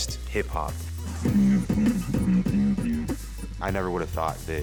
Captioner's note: beat boxing